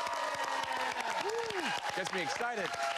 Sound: cheers and applause

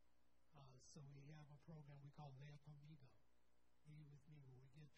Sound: speaking in foreign language

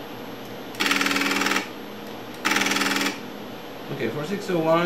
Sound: tape reader noises

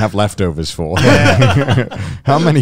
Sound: laughing

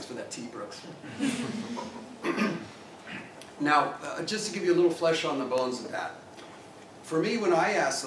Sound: laugh

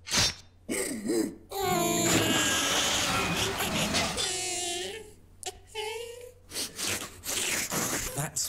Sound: sob sobby sob sob

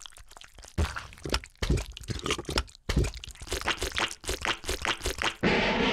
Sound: disgusting squelching noises

